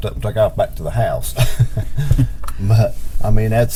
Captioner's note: chuckles